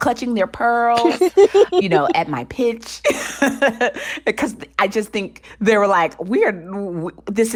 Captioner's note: laughter